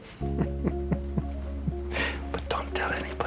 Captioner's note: Noel laughs